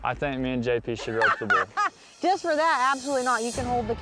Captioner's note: laughs